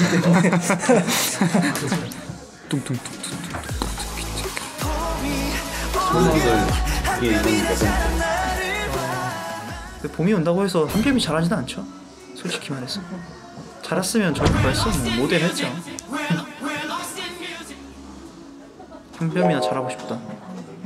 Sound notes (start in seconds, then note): 2.7 beatboxing